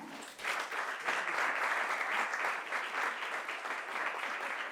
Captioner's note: audience applauds